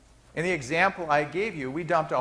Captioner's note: none